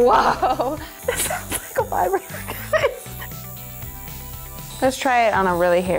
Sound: laughing

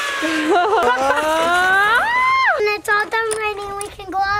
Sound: laughs

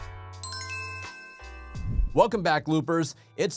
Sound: chime

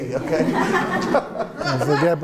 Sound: laughing

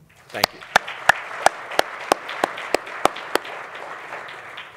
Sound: audience applauding

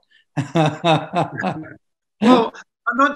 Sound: laughs

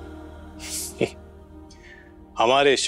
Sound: laughs

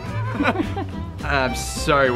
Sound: both laughing

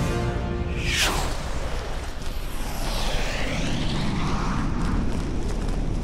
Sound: jet whisps

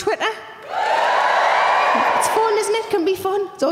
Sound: audience cheering

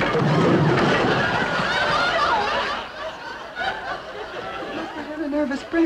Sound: barbecue collapsing; audience laughing

